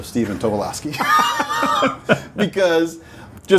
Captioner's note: both laughing